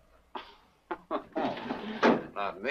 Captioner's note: Lin laughs